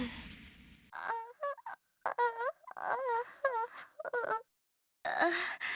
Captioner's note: pained groans; pained groans